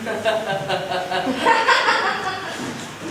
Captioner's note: awkward laughing